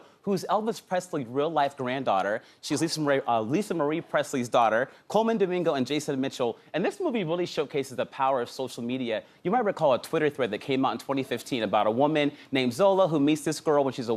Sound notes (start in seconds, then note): none